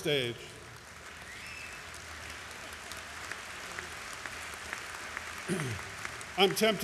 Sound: applause

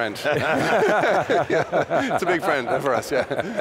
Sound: laughter

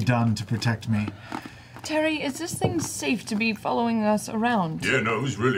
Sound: sighs

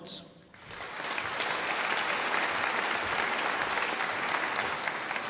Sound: audience applauding

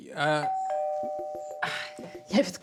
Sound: doorbell

